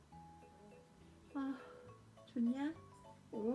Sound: sighs

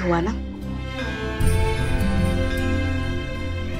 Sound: bells tolling

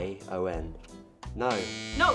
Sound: buzzer

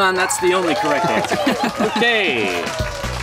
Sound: dinging and cheering

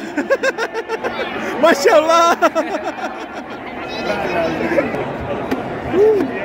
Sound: laugh

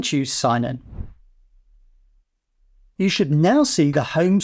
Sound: air whooshing

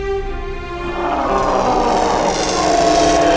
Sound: Sandwich screams in pain

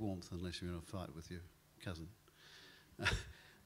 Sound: chuckles

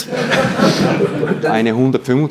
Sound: audience laughs

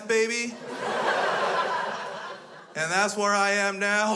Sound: crowd laughs

